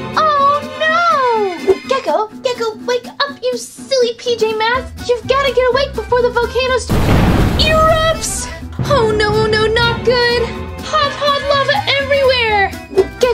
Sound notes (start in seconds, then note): 6.9 loud explosion